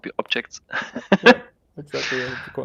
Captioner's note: laughing